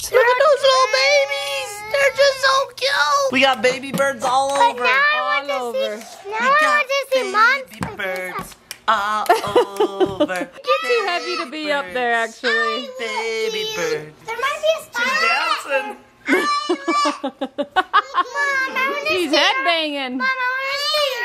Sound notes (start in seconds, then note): 9.2 laughs; 14.3 children exclaiming; 16.3 laughs; 17.4 exclaiming